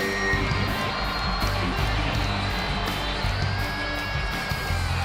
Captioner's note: audience cheering